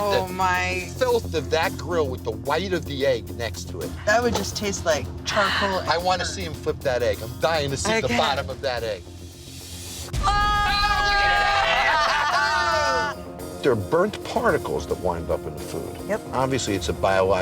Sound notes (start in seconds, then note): 10.2 all screaming